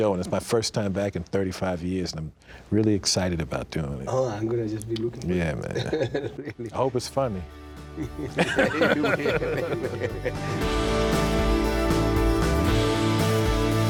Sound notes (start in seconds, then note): 7.9 laughing; 11.1 upbeat music